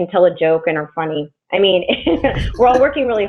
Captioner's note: laughs